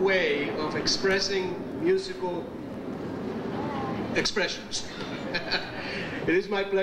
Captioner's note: chuckles